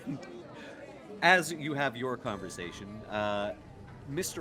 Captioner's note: laughs